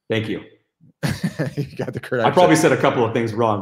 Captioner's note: laughs